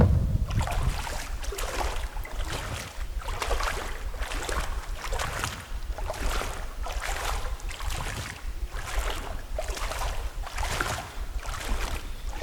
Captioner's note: water sounds